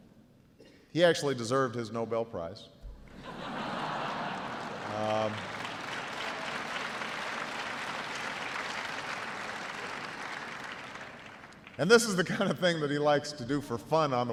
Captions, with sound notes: He actually deserved his Nobel Prize. (audience laughs) (audience applauds) And this is the kind of thing he likes to do for fun